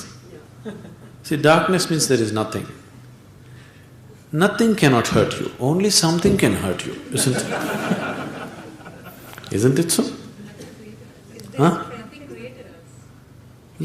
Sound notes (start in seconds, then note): 0.8 laughs; 7.1 laughter